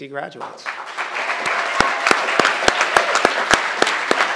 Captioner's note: crowd applauding